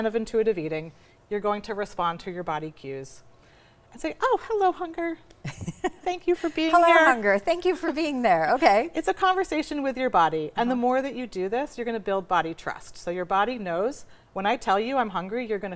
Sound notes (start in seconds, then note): 5.4 laughs